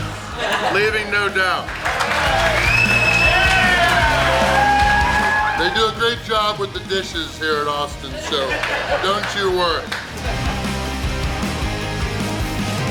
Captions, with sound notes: Leaving no doubt. (audience cheering) They do a great job with the dishes here at Austin's. So, don't you worry.